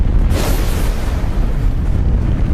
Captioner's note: rocket blasting